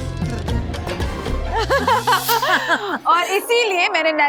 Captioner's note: all laugh